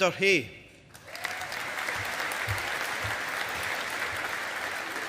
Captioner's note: audience applauding